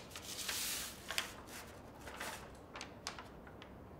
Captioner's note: paper sliding